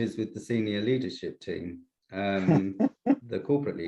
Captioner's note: laughs